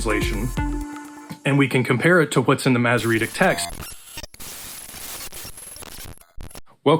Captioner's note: glitching noises